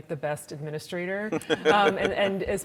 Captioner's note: laughing